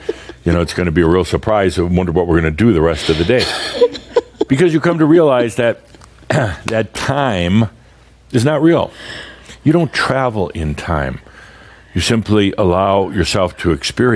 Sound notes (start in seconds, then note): 0.0 continues laughing; 3.2 still chuckling